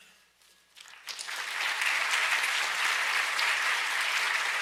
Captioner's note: audience applauds